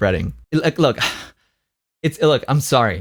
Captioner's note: sighs